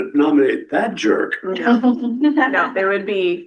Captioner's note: laughter